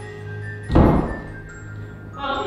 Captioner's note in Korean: 문 닫는 소리